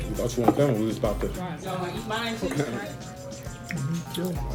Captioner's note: fun family chatter